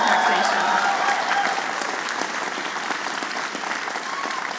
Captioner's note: applause